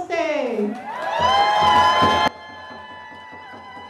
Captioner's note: cheers and applause